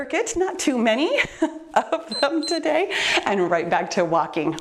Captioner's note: timer beeps